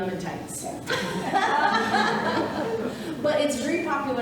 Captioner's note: audience laughing